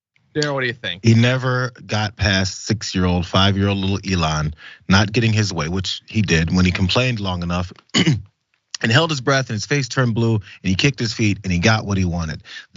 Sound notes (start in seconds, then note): 7.9 cough